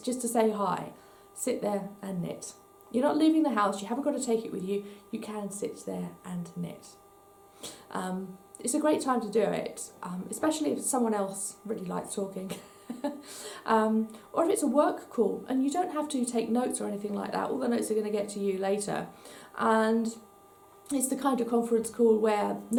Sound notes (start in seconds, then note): 12.5 laughs